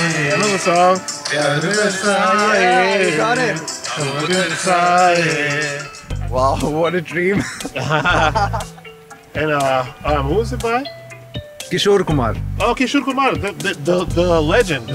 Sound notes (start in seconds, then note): 7.3 both laugh